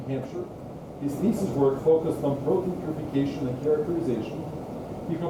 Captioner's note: speaking faintly